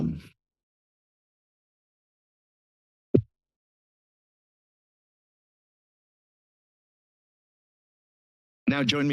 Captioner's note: silence